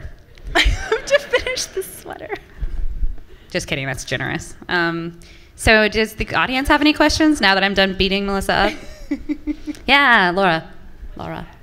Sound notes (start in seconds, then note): 0.5 laughter from the audience; 8.5 laughing